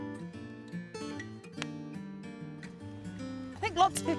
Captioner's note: bean snaps